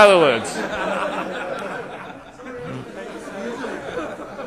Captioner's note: laughter